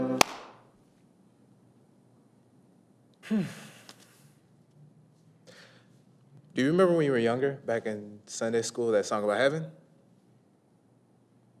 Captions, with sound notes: (Stu claps hands) (Stu sighs) - Do you remember when you were younger, back in Sunday School, that song about heaven?